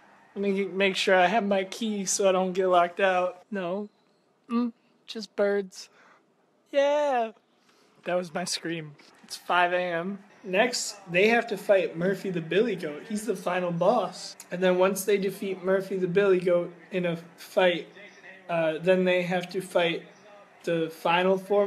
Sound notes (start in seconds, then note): 6.8 a very quiet yell